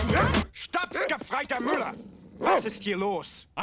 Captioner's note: speaking german